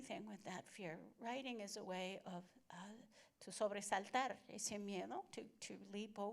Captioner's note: Spanish language